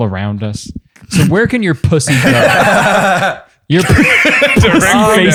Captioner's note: laughter